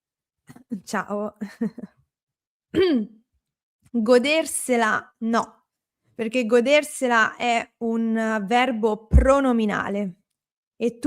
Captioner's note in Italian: schiarire la voce